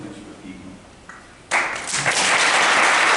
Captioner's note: applause